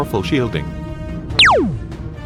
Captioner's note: zap